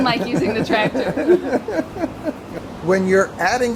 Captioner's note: laughs